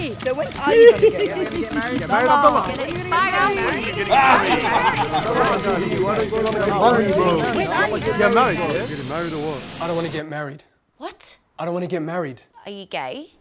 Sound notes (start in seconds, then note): 3.5 laughter; 3.5 shouting